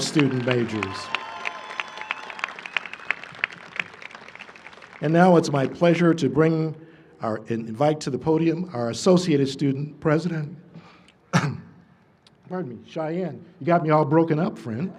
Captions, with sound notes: [ Cheering and applause ] And now it's my pleasure to bring or invite to the podium our Associated Student President -- [coughs], pardon me. Shayan -- you got me all broken up, friend.